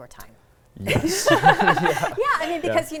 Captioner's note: laughs